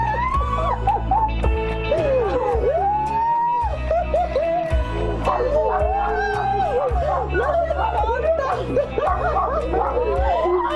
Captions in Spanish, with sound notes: Y QÉ TAL ELLA MEJOR ESÁ AQÍ EN PERSONA PARA DEÍRTELO. [GRITOS]